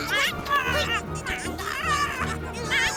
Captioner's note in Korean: 신음